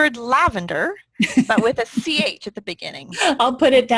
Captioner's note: laughing